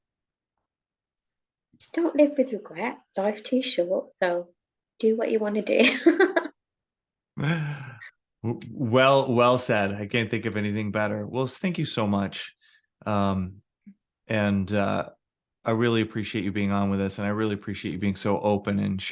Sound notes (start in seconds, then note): 7.4 chuckles; 7.4 laughing